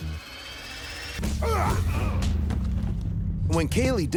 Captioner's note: men grunting